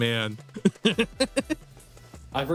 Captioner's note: laughs